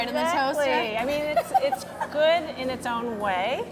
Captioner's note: chuckles